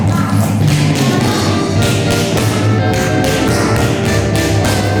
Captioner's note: tapping